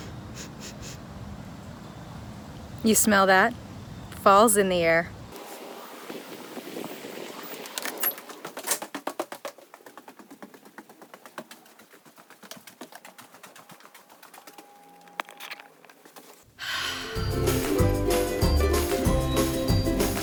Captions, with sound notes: - (nose sniffing) You smell that? Fall's in the air. (footsteps running) (sighs) (upbeat music)